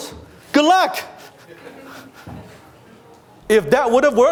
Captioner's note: laughter